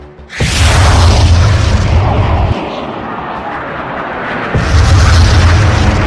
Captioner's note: jet engine roaring; bomb banging; bombs banging